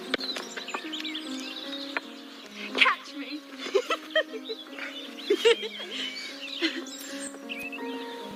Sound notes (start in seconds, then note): 3.5 giggles